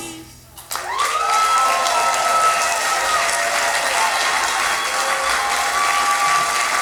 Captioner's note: applause & Cheers. End of play